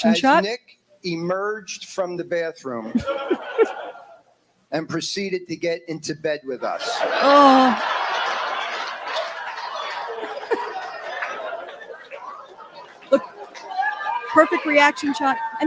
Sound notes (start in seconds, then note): 6.6 groans; 6.6 laughter